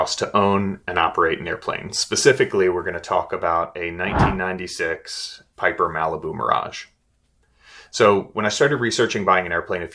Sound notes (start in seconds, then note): 4.1 screen whooshes